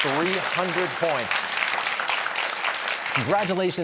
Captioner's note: cheers and applause